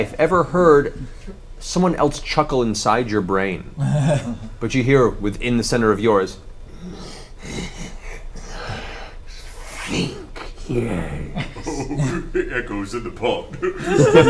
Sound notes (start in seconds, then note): 6.8 chuckles; 13.5 all laugh